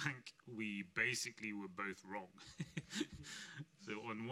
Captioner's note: laughing